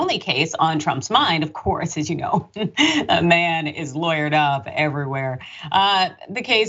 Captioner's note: laugh